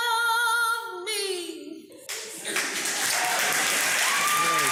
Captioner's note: applause